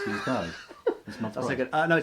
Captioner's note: laughs